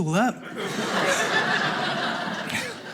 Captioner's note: audience laughing